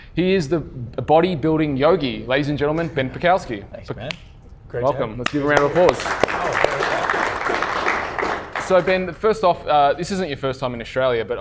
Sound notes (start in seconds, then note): 5.2 applauding